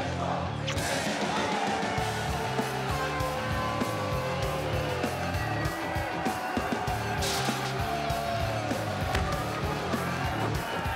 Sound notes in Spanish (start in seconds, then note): 1.6 aplausos y exclamaciones